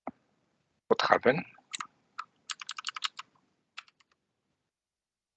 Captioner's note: typing